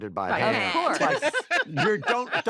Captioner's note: laughter